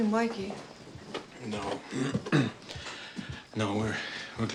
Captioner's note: coughs